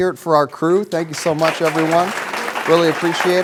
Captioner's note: applause